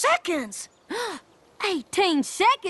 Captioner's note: both gasp